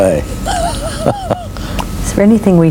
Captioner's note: laughs